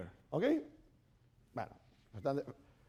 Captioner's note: speaking spanish